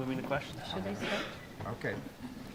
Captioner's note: speaks off-microphone